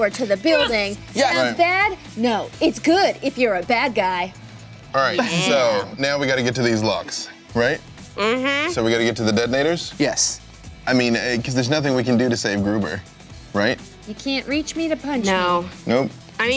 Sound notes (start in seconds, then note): none